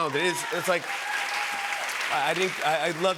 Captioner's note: cheers and applause